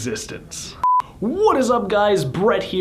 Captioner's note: beeping